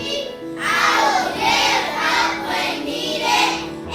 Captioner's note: kids chanting